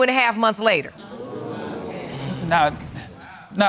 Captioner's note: audience murmuring